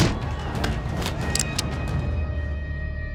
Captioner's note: cocks gun